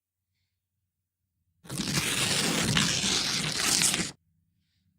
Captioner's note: ripping